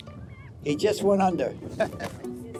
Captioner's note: chuckles